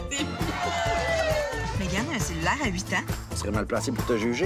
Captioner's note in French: cris de joie